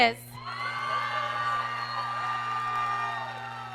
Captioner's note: applause